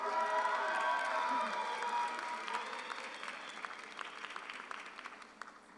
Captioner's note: audience cheers; audience applauds